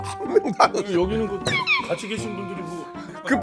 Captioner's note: awkward laugh